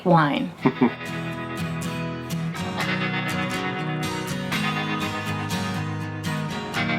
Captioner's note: laughs; upbeat music